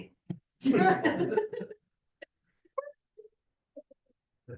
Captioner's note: laughter